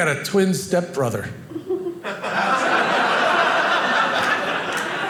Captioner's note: audience laughing